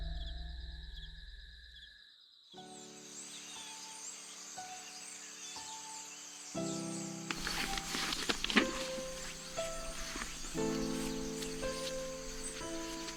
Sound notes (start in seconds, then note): 4.7 birds Chirping